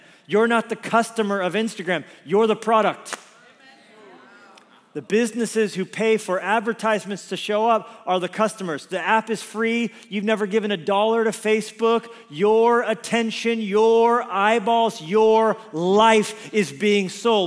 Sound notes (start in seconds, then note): 3.3 congregation exclaims in agreement